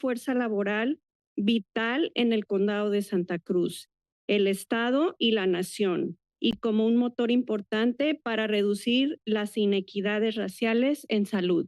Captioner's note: foreign language